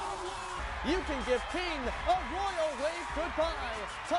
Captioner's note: cheering, then music